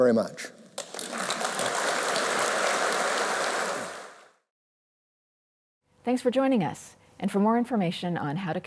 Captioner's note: applause